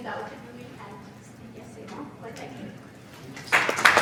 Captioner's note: speaks faintly; audience applauding